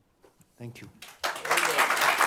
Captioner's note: applause